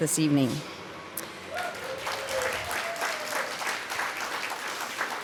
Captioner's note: applause